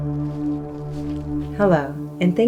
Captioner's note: leaves rustling